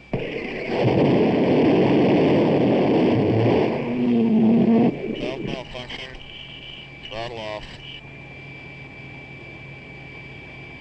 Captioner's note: jet engine firing